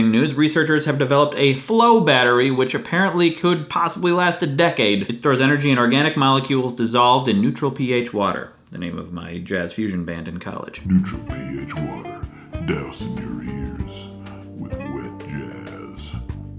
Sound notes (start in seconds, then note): 10.9 smooth music in background; 11.8 very deep voice